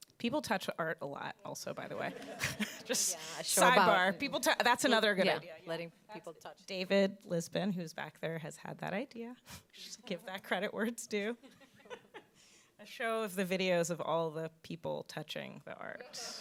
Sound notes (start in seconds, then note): 2.0 audience laughs; 12.0 laughs; 16.2 audience laughs